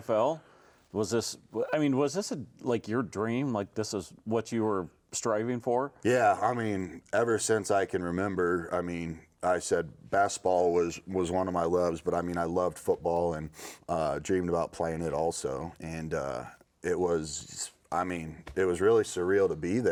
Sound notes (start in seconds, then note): none